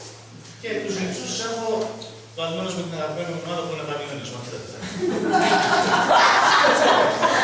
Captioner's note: laughs